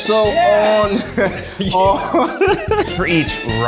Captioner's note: laughs